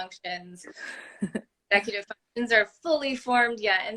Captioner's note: laugh